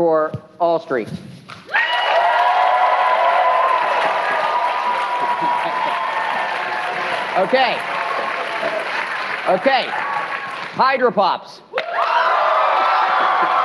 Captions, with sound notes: [APPLAUSE] OK. OK, Hydra Pops? [CHEERING] [APPLAUSE]